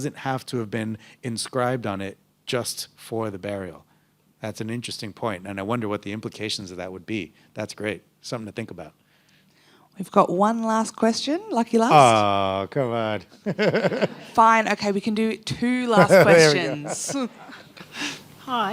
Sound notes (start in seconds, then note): 13.4 laughs